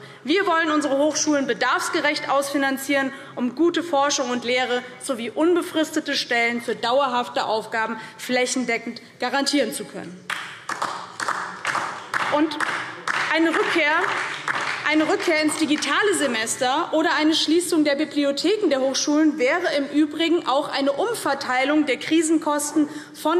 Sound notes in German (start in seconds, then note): 10.2 Beifall DIE LINKE